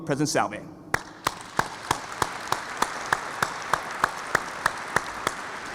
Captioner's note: audience applauds